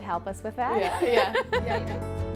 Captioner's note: all laugh